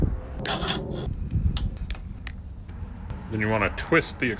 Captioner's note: wire cutters snipping